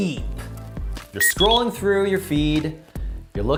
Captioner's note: electronic beep